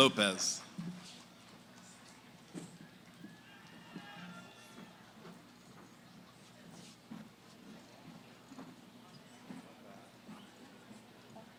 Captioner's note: background conversations